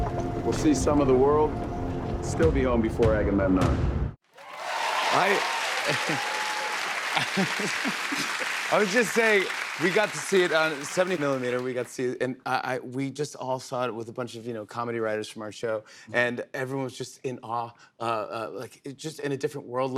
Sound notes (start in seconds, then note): 4.3 cheers and applause